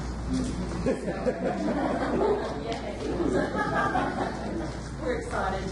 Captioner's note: audience laughs